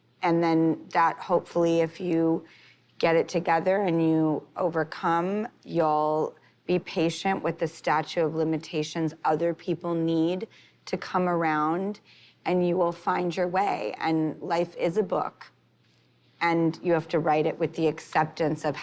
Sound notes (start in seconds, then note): none